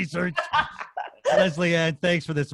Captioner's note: laughs